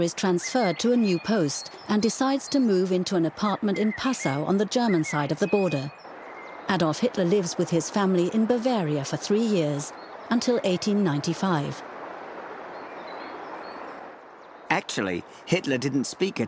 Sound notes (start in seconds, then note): 12.2 birds chirping; 12.2 water rushing